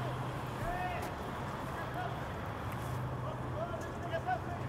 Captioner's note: fan screaming